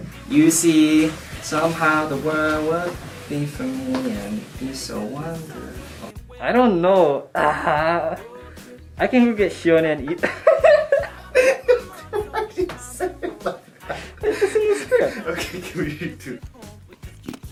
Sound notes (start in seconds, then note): 7.4 chuckles; 10.1 laughing; 10.8 laughs